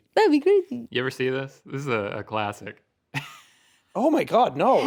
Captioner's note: chuckles